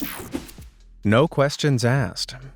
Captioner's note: whooshing